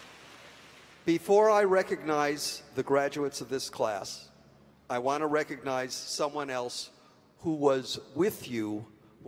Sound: applause

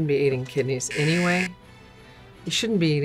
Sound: buzzer rings

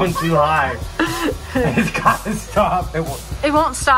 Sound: and mom laughing

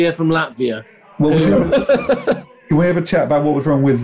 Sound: laughing

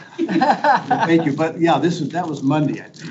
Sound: laughs

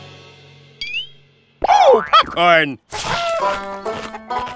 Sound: clucks like a chicken

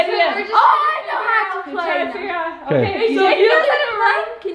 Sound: shouting

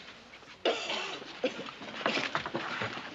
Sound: coughing

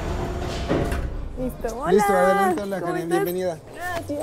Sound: speaking spanish

